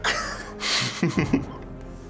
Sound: Finebros laughs; snickers

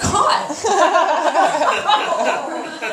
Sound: groans and laughter

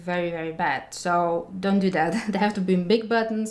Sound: chuckling

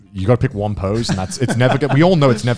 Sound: laughs

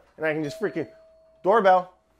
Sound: doorbell ringing

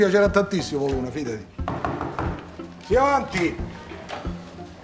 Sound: knocking at the door

